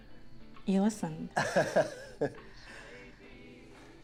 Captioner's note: Ben laughs